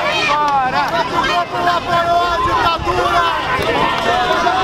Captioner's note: chants